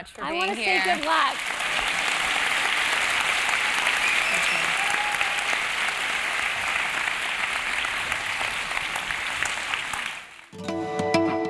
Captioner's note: applause